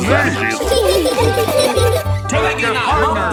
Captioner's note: laughing